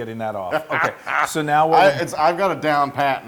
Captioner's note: laugh